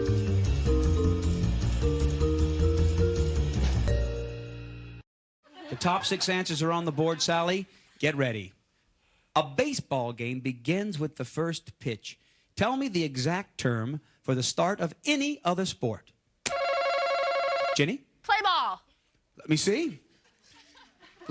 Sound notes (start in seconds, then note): 16.5 buzzer